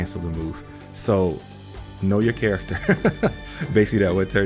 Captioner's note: chuckles